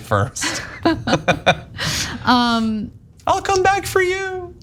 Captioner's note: laugh